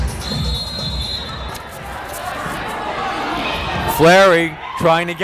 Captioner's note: whistle blowing